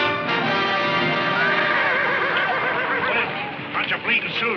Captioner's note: horse neighs